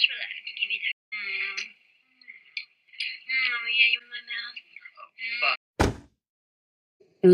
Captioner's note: bang